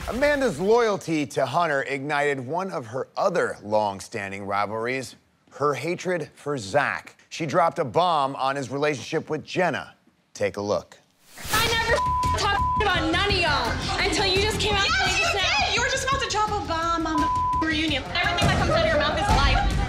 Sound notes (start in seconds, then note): 11.6 beep; 17.1 beep